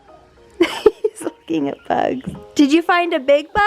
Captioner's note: chuckling